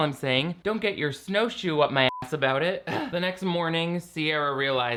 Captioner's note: beeping